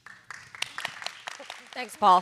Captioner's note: everyone clapping